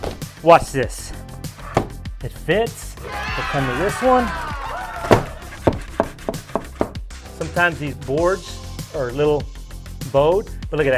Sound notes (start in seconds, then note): 3.0 canned audience cheering